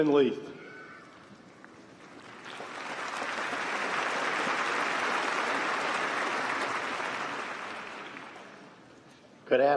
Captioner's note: applause